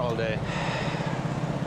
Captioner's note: sighs